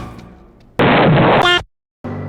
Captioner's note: pop; deltarune explosion